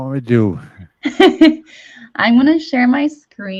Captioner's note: chuckles